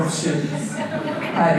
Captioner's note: audience laughter